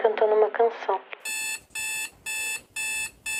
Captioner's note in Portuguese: campainha